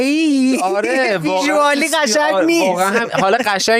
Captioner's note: laughs